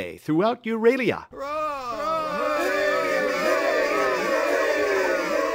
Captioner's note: _terrific cheering_